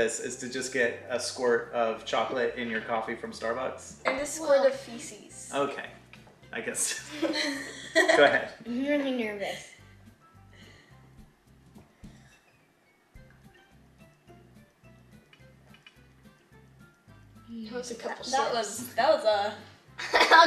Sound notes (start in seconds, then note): 6.9 chuckles